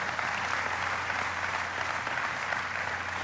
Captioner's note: applause